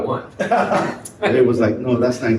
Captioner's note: people laugh